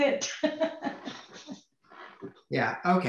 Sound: laughs

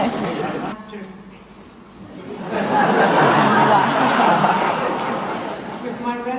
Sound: audience laughter; audience laughter

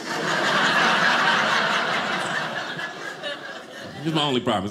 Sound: audience laughing

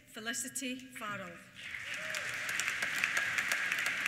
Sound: applause; cheers

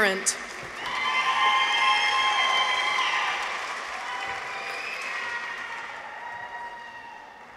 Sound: audience applauds; people cheer

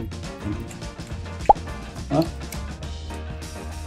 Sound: licking lips in sync

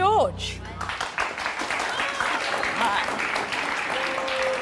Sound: applauding

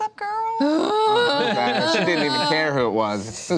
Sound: groans

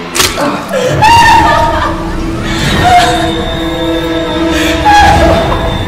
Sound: Ciara cries; tense music

